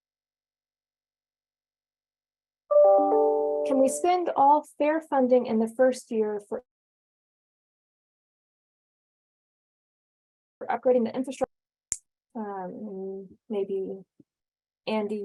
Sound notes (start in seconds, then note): 2.7 computer Tone